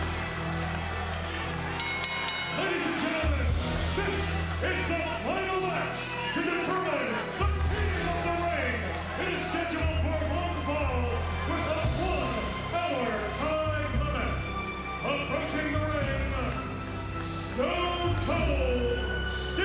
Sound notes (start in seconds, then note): 1.8 bell dinging